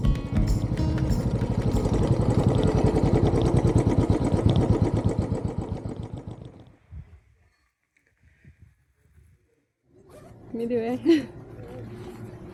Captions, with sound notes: [bike engine] Mwiriwe. - Yego.